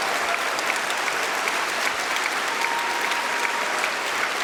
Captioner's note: cheering and applause